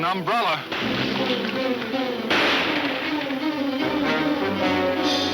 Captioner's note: dramatic music; gunshot banging; gunshots banging